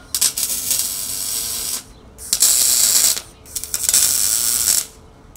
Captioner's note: welding tool buzzing